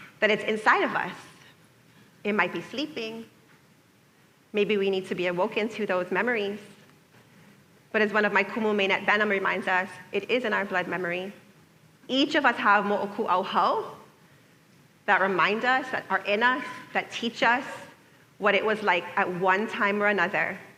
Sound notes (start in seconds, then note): none